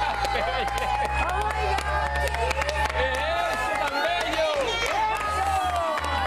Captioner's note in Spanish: aplausos